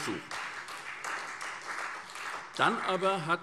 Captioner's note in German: Beifall SPD